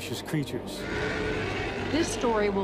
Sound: roar

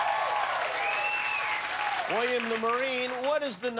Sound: cheers and applause

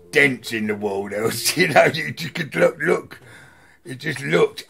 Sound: laughs

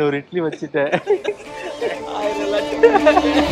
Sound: laughs

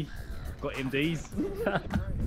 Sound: laughs

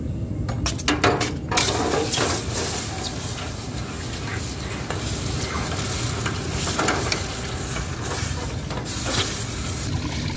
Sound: loud Hissing

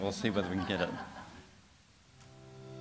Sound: laughter

